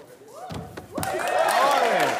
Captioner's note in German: Jubel, Applaus